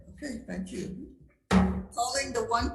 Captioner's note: gavel bangs